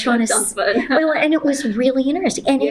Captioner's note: laughter